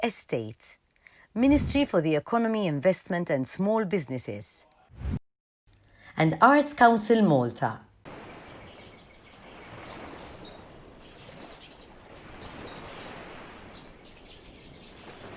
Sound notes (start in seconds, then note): 8.2 birds chirping